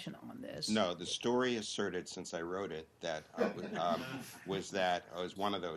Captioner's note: laughter